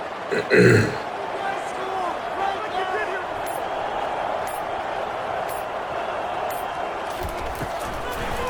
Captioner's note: crowd Noises